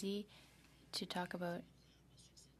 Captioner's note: speaking French